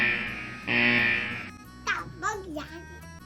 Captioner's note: buzzer noise goes off